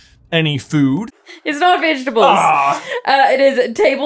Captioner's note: accented